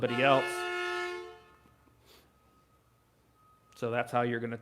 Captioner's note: vehicle honking